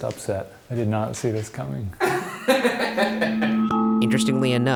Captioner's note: laughing